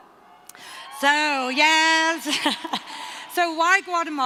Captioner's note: cheering